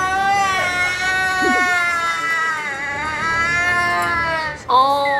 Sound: burst into tears

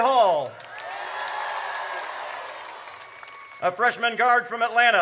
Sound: audience cheers

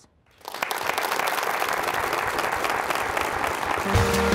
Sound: applause

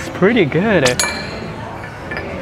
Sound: dish clanks

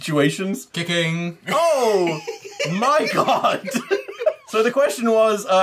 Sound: laughter

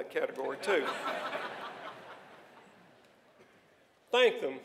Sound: laughter

